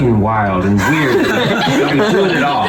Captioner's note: all laughing